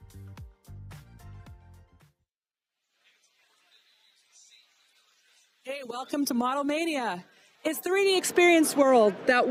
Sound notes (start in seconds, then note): 5.1 attendees chattering faintly